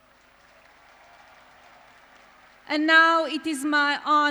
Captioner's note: applause